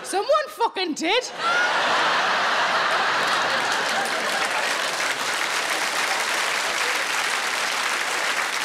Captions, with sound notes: Someone fucking did! (audience laughing and applauding)